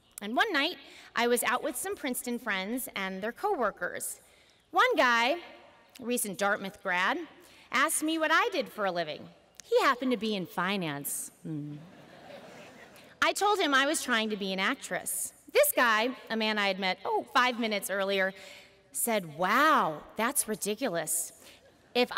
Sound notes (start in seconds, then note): 11.8 laughter